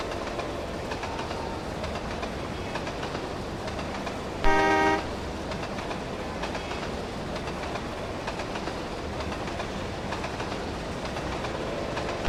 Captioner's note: clickety-clack sounds in the distance; PRR T1 whistle